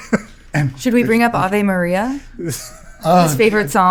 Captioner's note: laughing; laughing